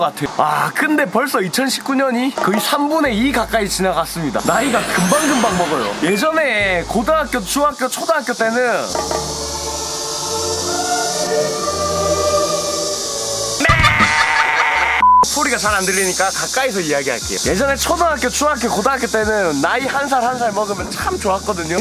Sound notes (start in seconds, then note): 8.9 cicadas crying; 13.6 I'm going to cry louder!!